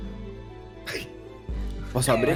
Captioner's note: laughs